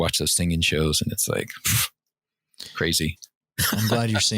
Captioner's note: laughter